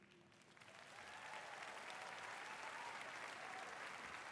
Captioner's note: applause